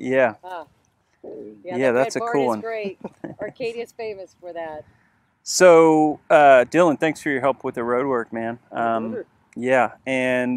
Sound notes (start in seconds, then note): 1.7 laughs; 8.8 mumbles